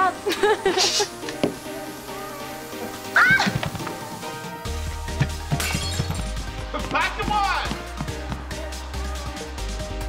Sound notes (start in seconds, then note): 0.1 laughing; 3.1 screaming; 5.5 shattering